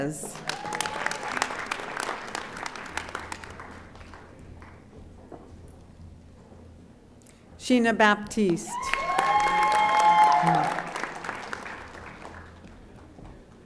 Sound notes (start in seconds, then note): 0.3 audience applauding; 8.7 audience applauding